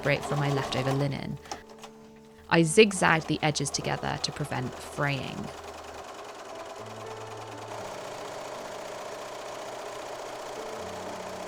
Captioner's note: sewing machine whirring